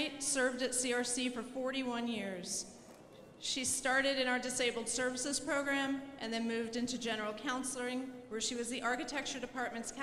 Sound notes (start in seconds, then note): none